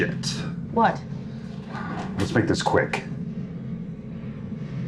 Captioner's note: sighs